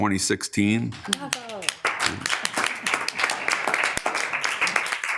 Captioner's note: members applauding